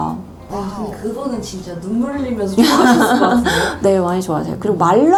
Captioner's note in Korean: 웃음